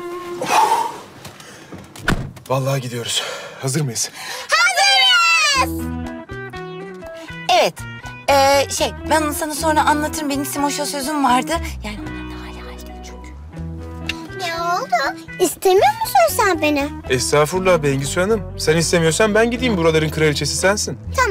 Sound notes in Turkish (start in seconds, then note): 4.4 Hep bir ağızdan